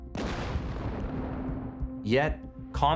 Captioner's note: dynamite exploding